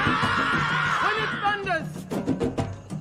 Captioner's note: warriors yelling